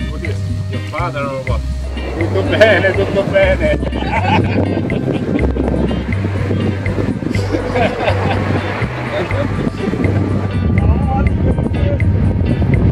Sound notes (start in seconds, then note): 2.0 him speaking a little Italian